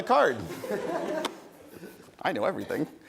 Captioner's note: audience chuckles